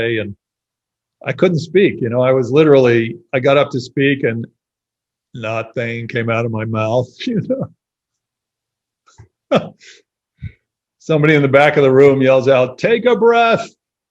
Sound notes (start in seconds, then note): 9.5 laughs